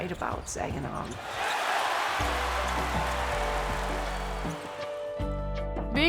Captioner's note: spectators cheering